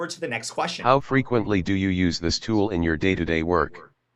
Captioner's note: NVDA talking